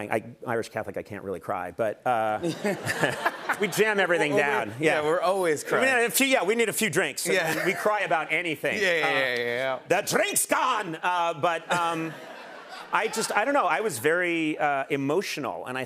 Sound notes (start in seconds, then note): 2.4 laughter